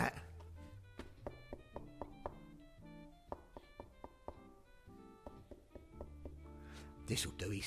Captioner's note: knocking